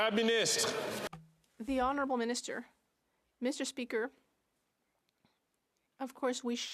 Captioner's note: some Applause